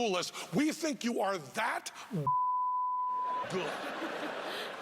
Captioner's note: beeping; laughing